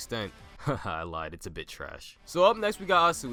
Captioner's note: laughs